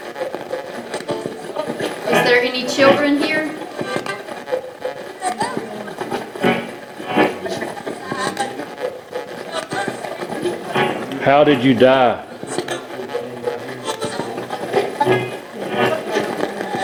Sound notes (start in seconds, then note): 5.2 radio voice; 7.4 radio channel changing; 13.2 radio channel changing